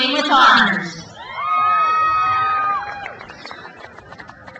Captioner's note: crowd cheers